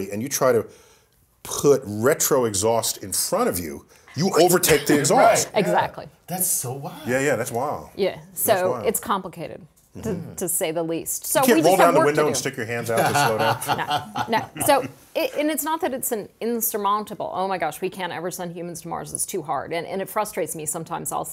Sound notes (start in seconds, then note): 12.9 laugh